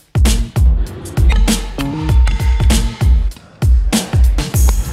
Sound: hammer pounding

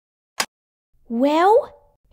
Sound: click!

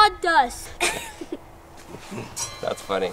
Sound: giggles

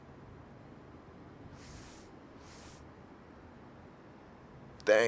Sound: lighter ignites

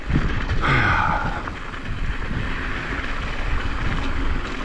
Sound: exhales strongly

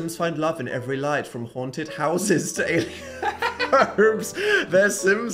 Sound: laughs

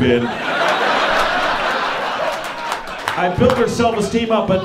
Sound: audience laughing

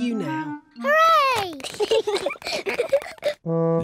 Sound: both giggle

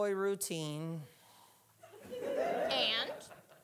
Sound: audience laughing

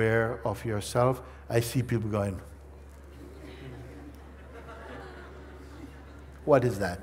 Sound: laughter

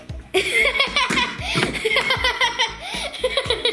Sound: laughing

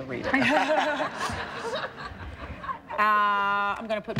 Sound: laughing

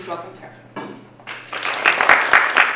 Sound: applause

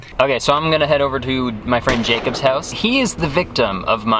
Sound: gunshot banging

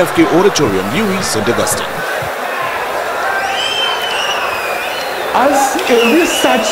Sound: wild applause and cheering for 22 seconds

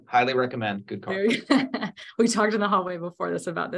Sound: laughs

